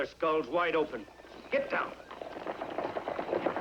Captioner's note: horses Approaching